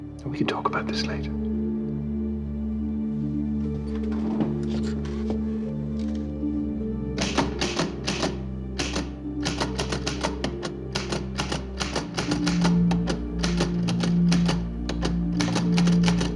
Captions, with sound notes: And we can talk about this later. (ominous music) (typewriter clacking)